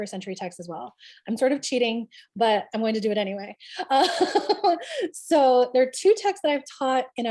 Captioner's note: laughs